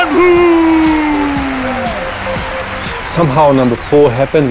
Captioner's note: cheers and applause